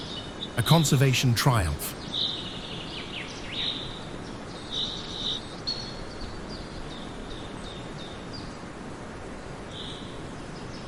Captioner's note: birds chirping